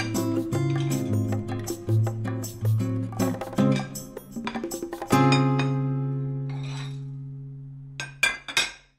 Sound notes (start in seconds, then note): 4.4 dishes Clatter